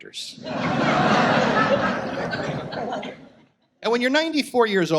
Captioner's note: audience laughs